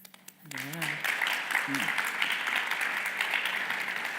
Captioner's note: audience applauds